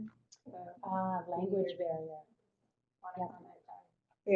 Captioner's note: voiceover